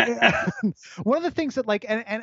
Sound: both laugh

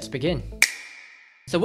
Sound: snap

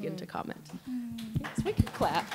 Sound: scattered claps

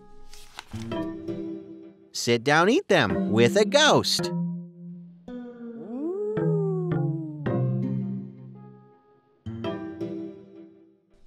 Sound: ghost noise

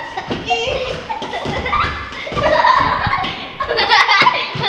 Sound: children laugh

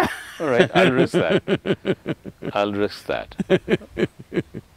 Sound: laughs

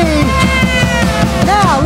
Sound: shouting

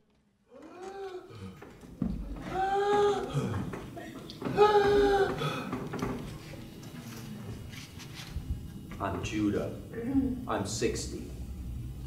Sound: three labored breaths--gasping

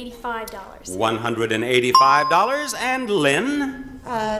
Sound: bell chimes

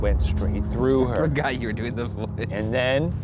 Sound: laughing

